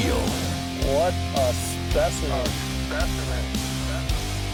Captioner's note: voiceover